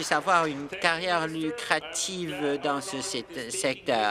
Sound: applause

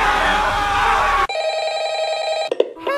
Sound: animatronics Screaming; phone rings

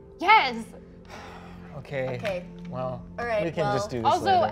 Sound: sighs

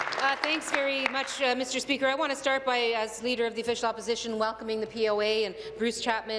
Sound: applause

